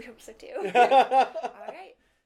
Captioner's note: laughter